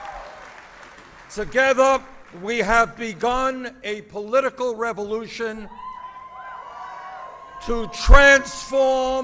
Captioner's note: applause